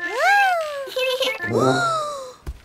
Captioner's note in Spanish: Risas